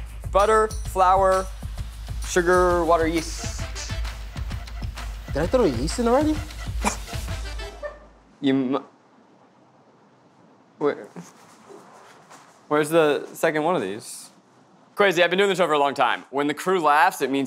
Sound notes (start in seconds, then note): 6.7 sputters